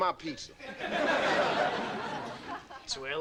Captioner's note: audience laughing